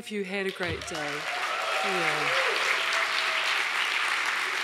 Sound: applauding

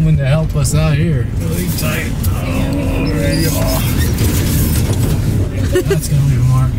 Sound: anxious groaning

